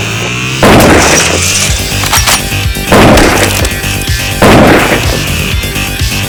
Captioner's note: gun fires; dramatic dance music